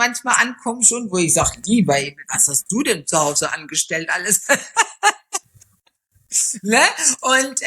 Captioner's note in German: gelächter